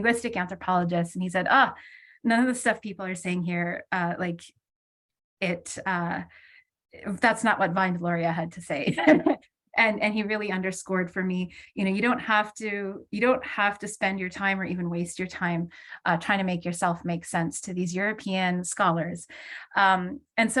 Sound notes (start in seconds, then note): 9.0 laughs